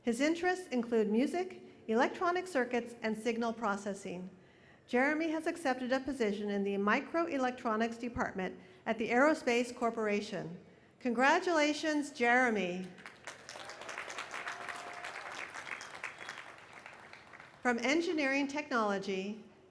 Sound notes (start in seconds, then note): 12.8 applause